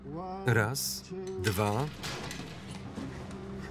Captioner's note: grate being pulled away